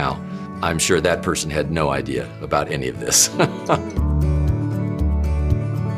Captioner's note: laughs